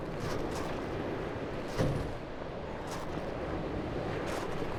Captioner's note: waves crashing